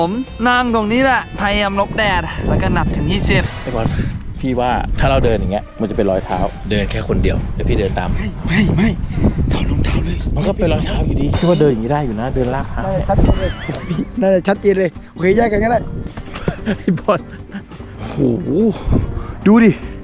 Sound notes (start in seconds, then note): 16.2 chuckles